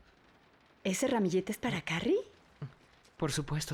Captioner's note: none